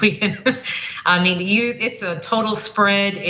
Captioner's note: laugh